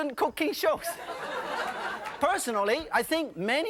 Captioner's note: audience laughing